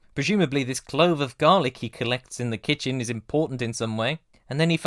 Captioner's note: none